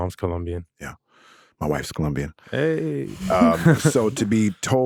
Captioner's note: laughs